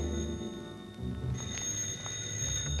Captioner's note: telephone